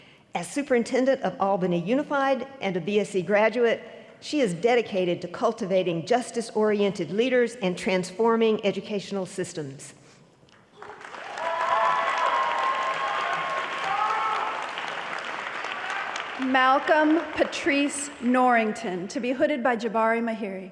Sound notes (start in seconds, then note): 10.7 applause